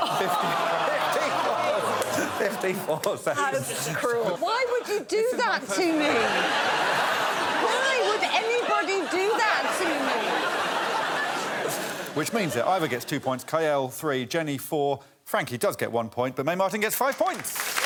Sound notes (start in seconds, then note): 7.8 laughter